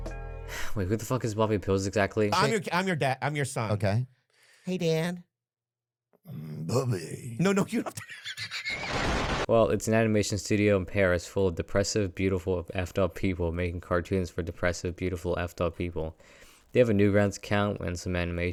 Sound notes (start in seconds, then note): 7.8 laughs